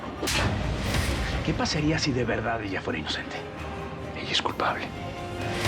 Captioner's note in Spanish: bofetada